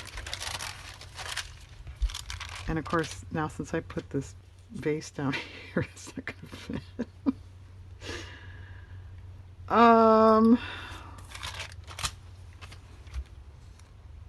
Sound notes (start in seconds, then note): 11.6 laughs